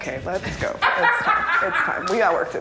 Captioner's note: laughing